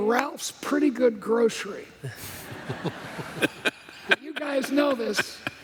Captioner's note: laughter